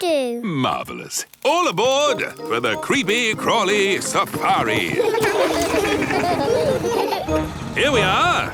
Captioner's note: laughing